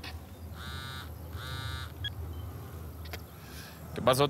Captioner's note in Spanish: suena el celular